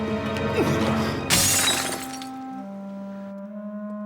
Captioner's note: crash